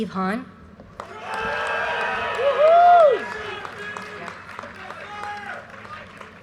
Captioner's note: audience cheers and applause